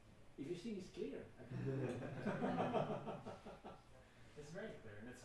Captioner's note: laughing